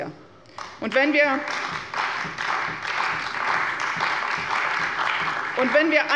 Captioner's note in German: Beifall bei der CDU